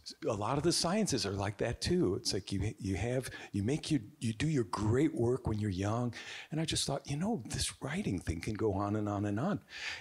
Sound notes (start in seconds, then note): none